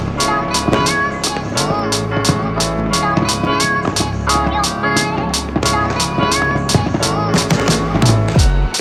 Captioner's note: fireworks